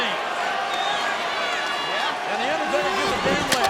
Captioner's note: audience cheering